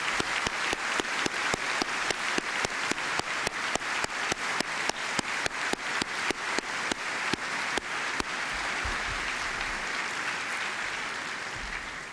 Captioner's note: applause